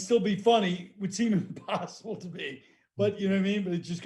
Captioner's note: laughing